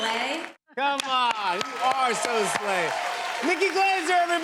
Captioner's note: cheers and applause